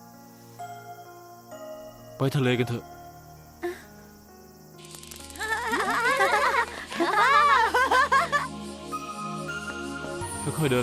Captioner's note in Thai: เสียงหัวเราะ